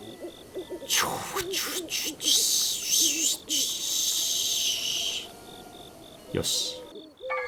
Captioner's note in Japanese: セミの鳴き声